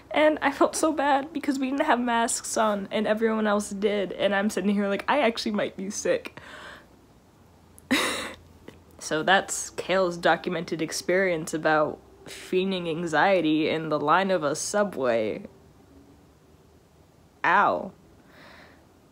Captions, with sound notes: and I felt so bad because we didn't have masks on and everyone else did. And I'm sitting here like I actually might be sick. (laughs) So, that's Kale's documented experience about feigning anxiety in the line of a Subway. Ow!